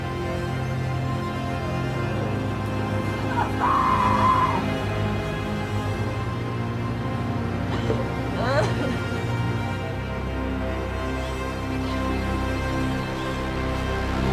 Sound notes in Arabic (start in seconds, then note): 3.0 صراخ آنا; 8.3 ينتحب